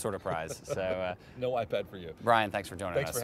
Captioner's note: laughter